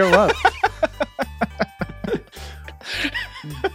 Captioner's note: laughing